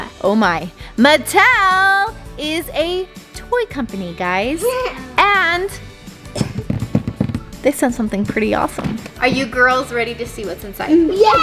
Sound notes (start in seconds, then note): 6.4 tapping on box